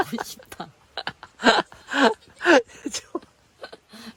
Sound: laughing

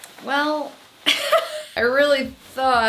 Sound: laughs

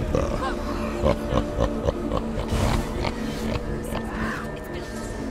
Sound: mocking laughter

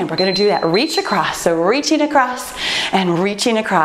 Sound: timer beeps

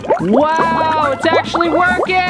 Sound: bubbling

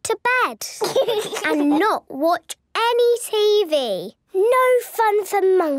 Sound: laugh

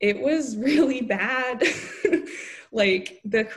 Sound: laughing

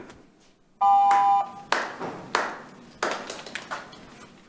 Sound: audience clapping

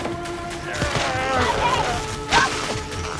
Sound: Ben groans

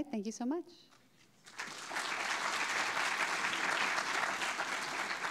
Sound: audience clapping

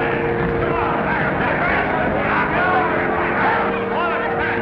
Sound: mayhem

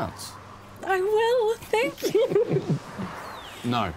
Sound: giggles

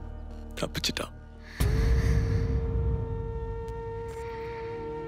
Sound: sigh

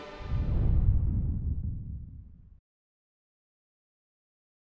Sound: whooshing sound

